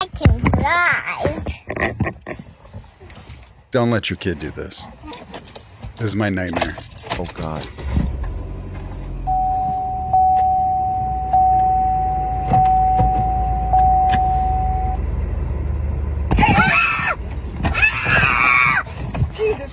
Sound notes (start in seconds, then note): 9.3 car beeps; 9.3 gear shift thuds; 16.4 child screams